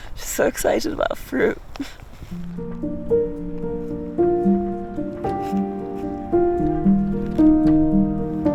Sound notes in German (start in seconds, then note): 1.9 kichert; 2.3 coole Musik